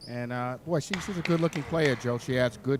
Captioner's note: dribbling